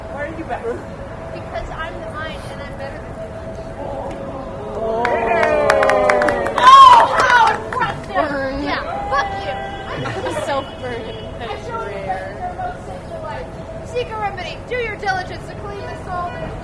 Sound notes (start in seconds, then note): 4.6 audience oohs, claps